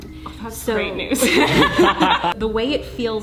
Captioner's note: laughing